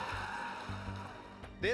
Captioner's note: cheering